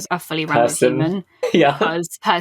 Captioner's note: laughing